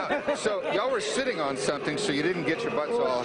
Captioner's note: laughter